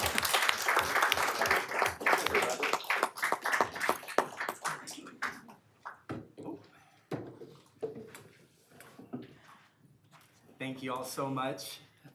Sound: applause

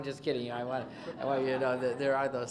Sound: laughter

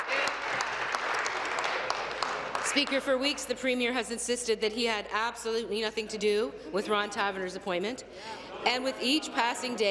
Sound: applause

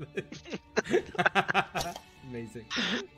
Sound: laughter continues

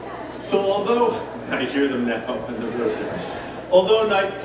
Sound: chuckling

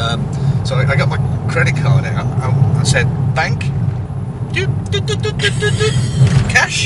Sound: and makes noises like he's keying into an ATM

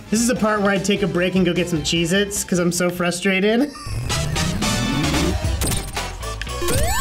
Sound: laughs

